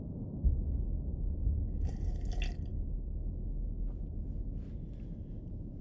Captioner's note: little sip